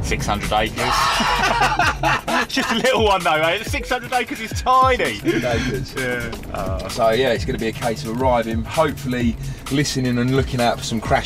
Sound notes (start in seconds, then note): 0.8 laughing loudly